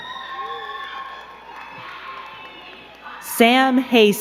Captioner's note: crowd cheering and clapping